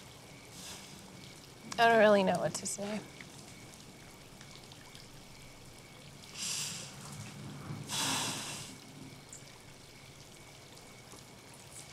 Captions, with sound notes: - I don't really know what to say. [breathes deeply]